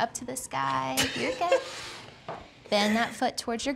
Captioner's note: laughing